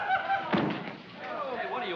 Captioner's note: laughs obnoxiously; thunk